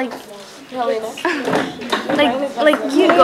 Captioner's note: chatter